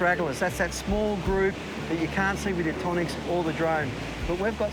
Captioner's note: water burbling